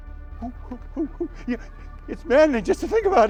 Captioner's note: humming